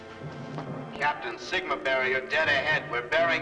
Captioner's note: loudspeaker